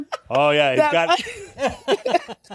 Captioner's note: laughter